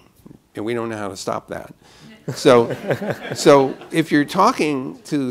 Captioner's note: laughter